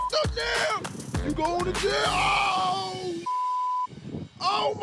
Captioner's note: beeps; beeps